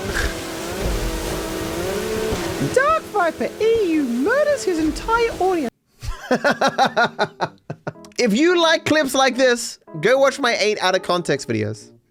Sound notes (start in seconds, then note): 2.6 high pitched voice; 6.0 laughs